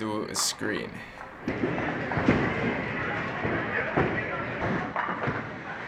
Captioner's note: bowling ball rumbles; pins fall